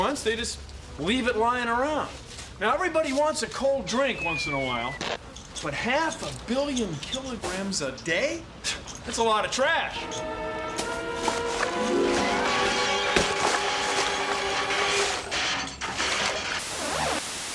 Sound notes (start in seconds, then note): 11.3 clattering